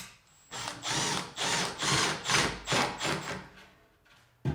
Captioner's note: drill whirring